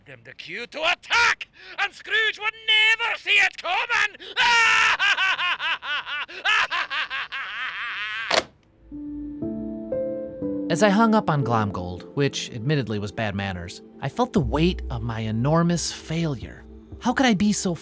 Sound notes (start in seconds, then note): 4.0 laughing maniacally; 8.3 phone clicks; 8.8 solemn music playing